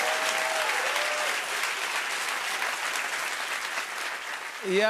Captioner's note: cheers and applause